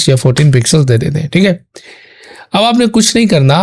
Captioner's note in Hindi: अचानक ज़ोर से सांस लेने की आवाज़